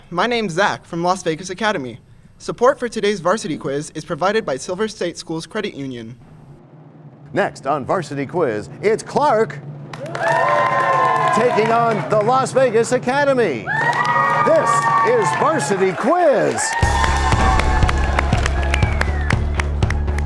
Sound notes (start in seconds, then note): 9.9 cheers and applause; 17.2 crashing sound